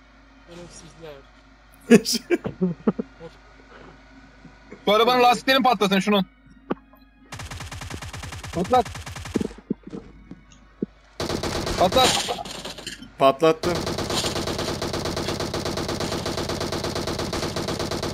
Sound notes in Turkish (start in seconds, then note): 1.9 Gülme sesleri; 11.2 Silah sesleri